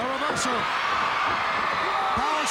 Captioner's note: crowd cheering